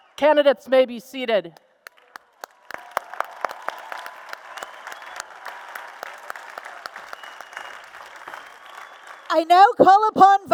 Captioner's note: applause and Cheers